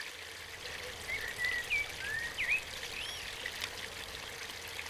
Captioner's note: birds chirping